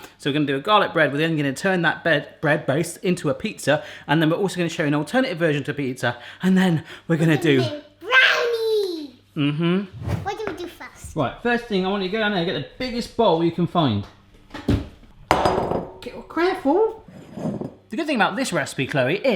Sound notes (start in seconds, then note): 15.2 bowl clangs